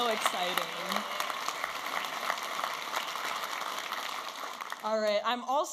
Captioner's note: audience applauding and cheering